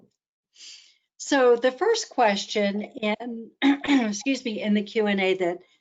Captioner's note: clears throat